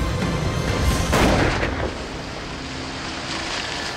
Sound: bang

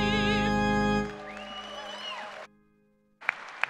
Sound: applause

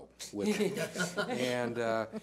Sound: laughter

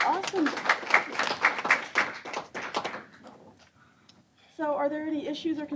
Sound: applause

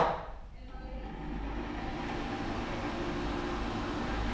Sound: dryer blows

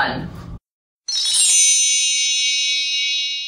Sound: chimes

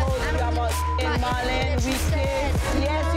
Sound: beep

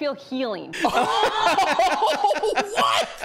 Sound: laughing in shock

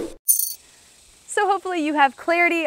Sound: screen whooshing

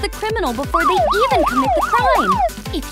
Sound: police siren

